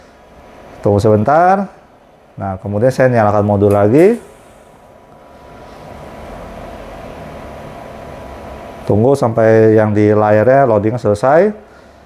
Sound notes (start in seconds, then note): 3.3 button noise